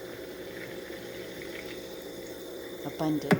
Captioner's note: fizzing sounds continue